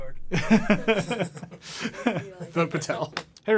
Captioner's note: laughing